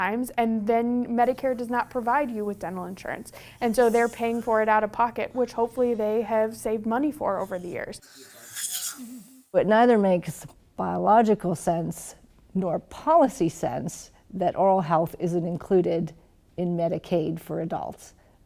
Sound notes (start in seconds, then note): 8.3 suctioning